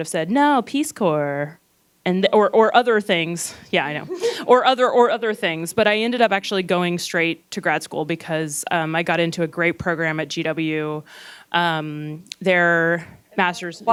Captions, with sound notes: said, "No, Peace Corps," or other things, yeah, I know. (laughing) Or other things. But I ended up actually going straight to grad school, because I got into a great program at GW. Their masters--